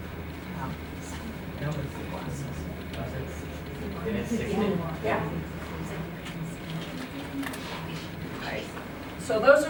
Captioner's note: audience murmuring